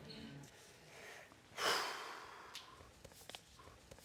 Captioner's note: sighs anxiously